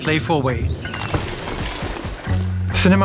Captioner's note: rustling